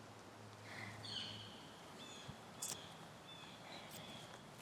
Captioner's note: birds chirping